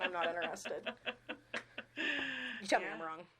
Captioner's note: laughing